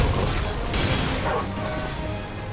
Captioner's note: bark